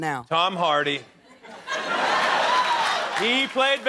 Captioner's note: laughter